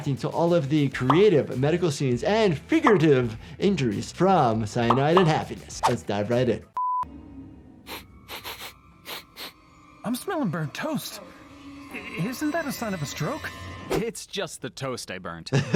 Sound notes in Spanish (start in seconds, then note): 7.0 música tensa; 7.8 Olfateando; 15.5 riendo